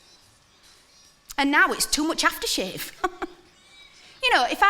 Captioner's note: chuckles